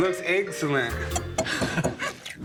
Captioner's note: laughs